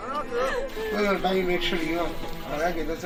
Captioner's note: going all-out with the tears